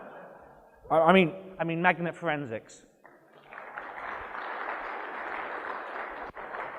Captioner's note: audience laughs; applause